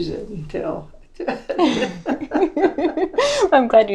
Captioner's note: laughs